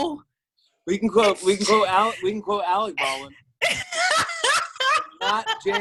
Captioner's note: laughs